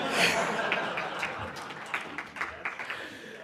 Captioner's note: laughing; audience laughing